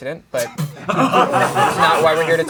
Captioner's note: crowd laughing